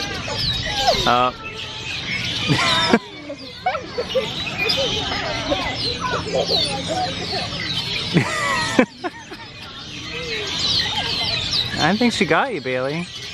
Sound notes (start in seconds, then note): 2.2 kids laugh; 2.8 laughs